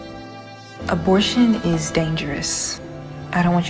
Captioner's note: voiceover